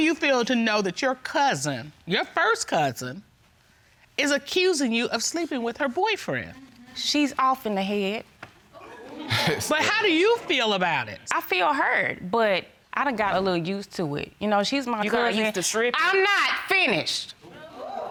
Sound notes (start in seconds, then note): 9.2 chuckles